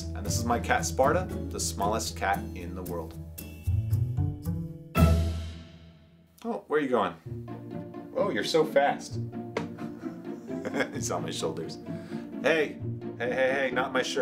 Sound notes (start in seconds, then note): 9.9 laughs